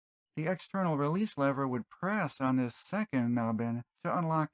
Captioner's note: none